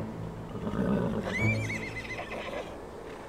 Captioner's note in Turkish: At kişneme sesi